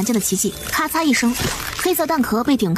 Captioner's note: crack!